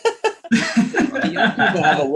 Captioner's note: laughing